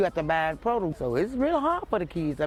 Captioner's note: voiceover